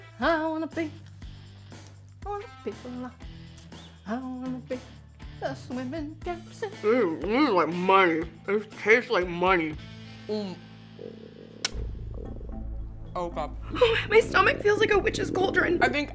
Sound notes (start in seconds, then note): 10.9 stomach gurgling